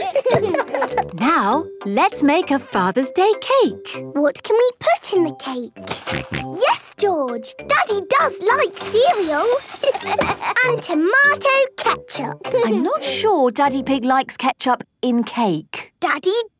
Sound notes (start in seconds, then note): 0.0 laughter; 6.3 snorting; 9.8 laughter